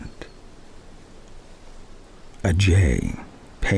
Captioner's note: wind and birdsong